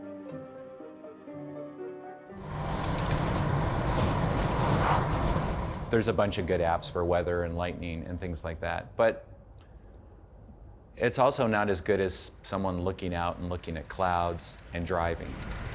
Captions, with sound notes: (car engine roars) - There's a bunch of good apps for weather and lightning, things like that, but it's also not as good as someone looking out and looking at clouds and driving.